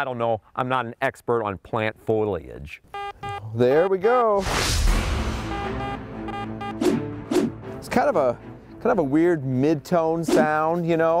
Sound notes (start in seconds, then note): 2.9 beeping; 4.8 suspenseful music